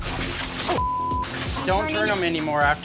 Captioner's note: beep